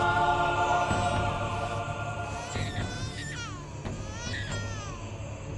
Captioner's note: baby wailing